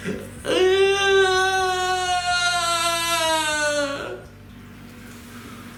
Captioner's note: extended sob-cry of clear misery